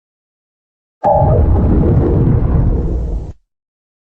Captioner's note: Zalgo Windows XD Random Edition Shutdown Sound